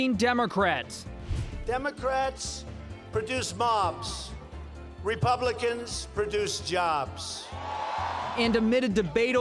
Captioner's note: cheers, applause